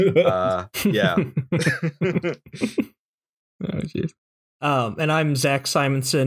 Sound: laughter

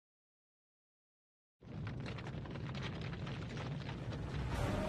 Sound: rumble

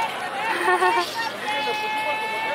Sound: giggles

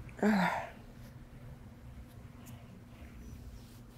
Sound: sighing

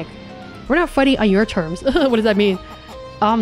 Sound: nervous laughing

